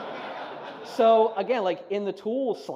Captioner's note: laughing